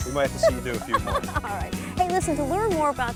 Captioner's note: laughs